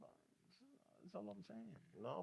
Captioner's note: speaking In Foreign Language